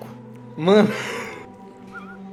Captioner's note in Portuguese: risos